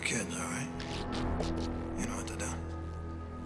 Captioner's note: DRD buzzing